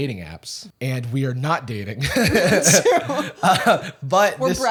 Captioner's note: laughter